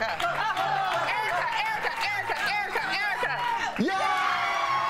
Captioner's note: applause